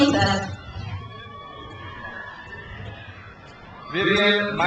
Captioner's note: crowd cheers